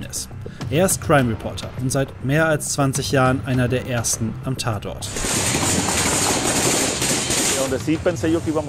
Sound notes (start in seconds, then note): 5.1 gunshots